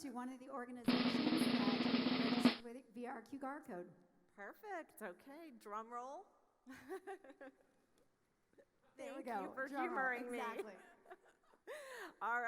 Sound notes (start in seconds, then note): 0.8 drum roll trilling; 8.0 laughs